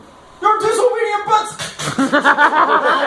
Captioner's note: smacking noises